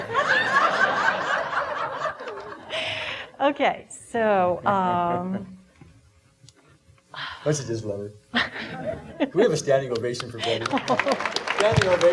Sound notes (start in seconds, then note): 0.0 audience laughing; 4.5 laughing; 9.8 audience applauding